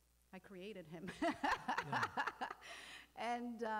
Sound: laughing

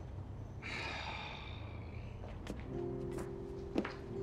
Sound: sighs

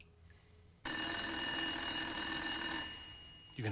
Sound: <i> phone ringing</i>

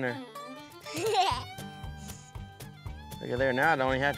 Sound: giggles

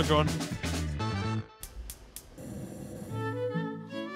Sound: burner clicking; mellow classical music

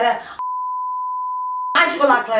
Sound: beep

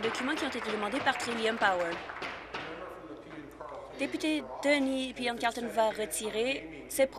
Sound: applause

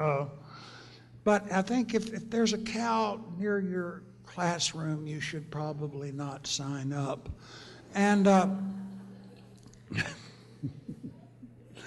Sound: laughter

